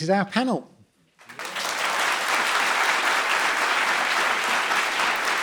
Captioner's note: audience applauds